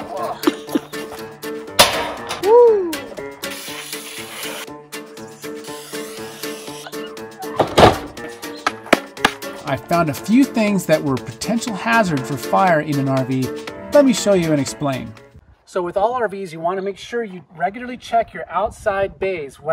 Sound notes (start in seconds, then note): 0.0 laughing; 0.2 groaning; 1.8 panel door slamming; 3.4 can spraying; 7.5 door slams; 9.2 hands clapping